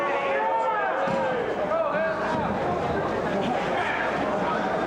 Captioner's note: spectators cheering